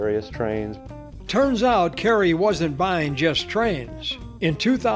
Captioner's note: voiceover